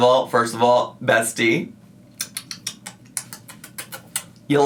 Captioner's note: tuts